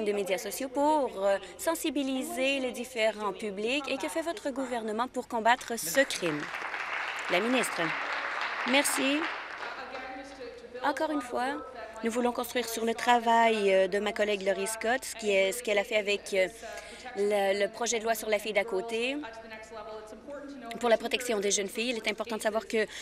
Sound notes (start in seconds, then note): 7.8 applause